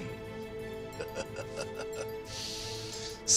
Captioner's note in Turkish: Gülüyor